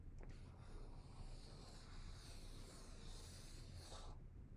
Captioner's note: marker scratching